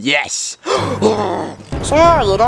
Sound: angry gasp

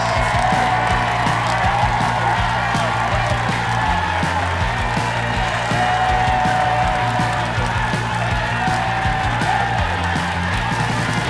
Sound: cheer/applause

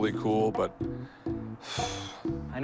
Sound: exhales

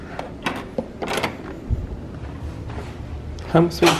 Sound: door latch clunking

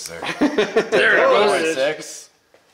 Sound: laughing

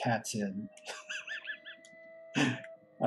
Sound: laughs

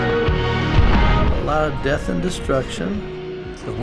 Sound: explosion

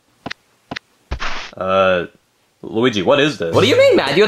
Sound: footsteps clicking

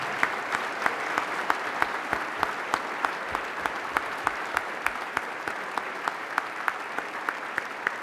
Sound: applause

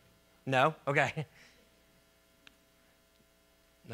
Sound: laughs

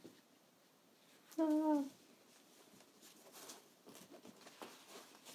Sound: instructor moaning

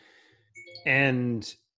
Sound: laptop chiming

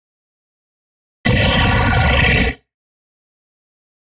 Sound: monster growl

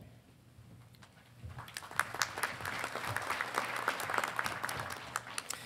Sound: audience applauding

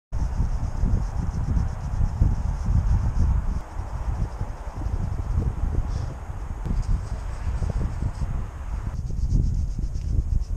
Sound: brushing

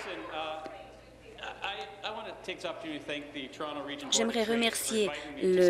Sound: applause

